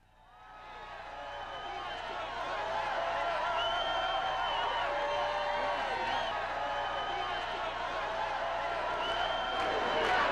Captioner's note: sounds of crowd cheering